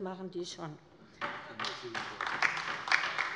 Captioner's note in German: Beifall bei der LINKEN